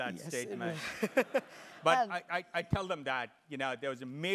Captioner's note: laugh